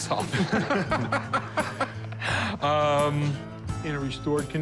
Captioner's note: laughter